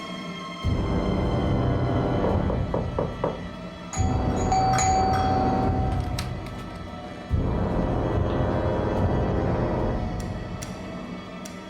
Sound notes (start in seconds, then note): 2.4 knocking; 4.0 doorbell ringing